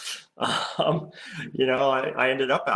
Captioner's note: giggles